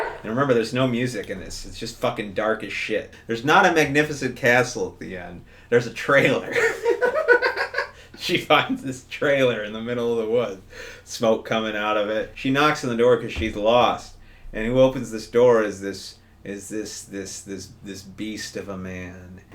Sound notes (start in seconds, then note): 6.5 both laughing